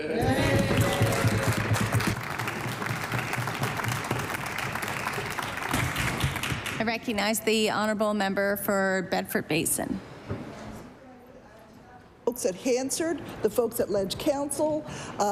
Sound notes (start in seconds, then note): 5.9 applause